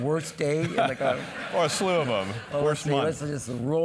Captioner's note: laugh